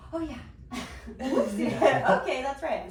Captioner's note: laughing